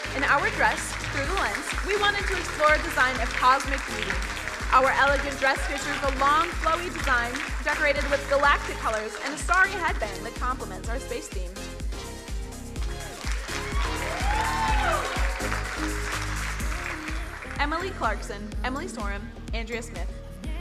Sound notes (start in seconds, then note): 12.6 upbeat music; 12.7 crowd cheering and applauding